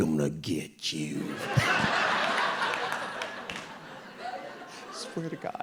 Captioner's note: audience laughing